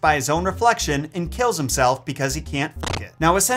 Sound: static crackles

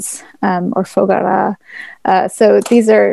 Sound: non-english speech

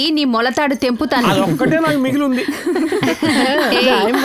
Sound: laughs

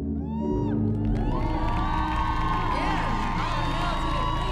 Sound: audience cheering

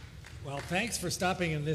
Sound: applause

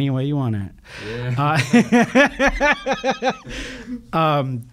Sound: laughing

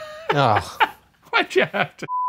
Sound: wheezes; groans

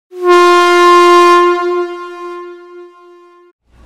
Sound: horn blaring

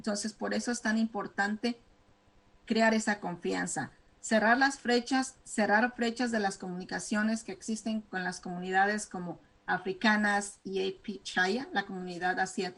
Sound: speaking spanish

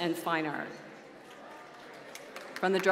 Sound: applause

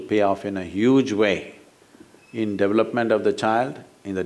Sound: none

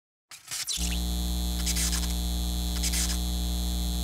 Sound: buzzing

